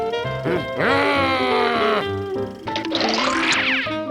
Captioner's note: frustrated grumbles; vaudeville music